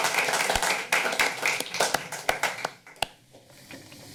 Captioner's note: applause